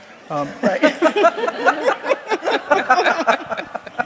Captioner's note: laughing